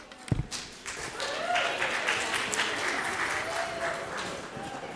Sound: attendees applauding

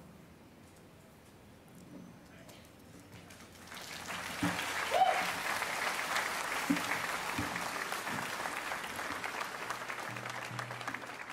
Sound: speaking Indigenous Language; applause

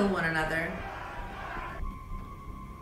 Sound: ominous music; crowd

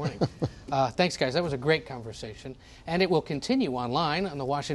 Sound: laughter

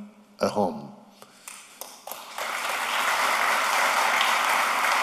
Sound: applause

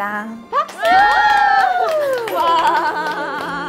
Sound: loud cheers

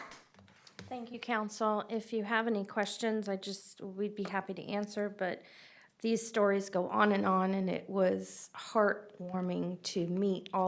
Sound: applause

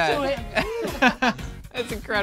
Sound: group laughs

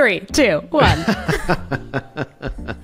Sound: laughing

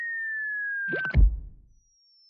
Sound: pie thonk

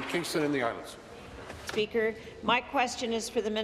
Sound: applause

